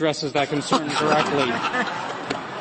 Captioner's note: laughter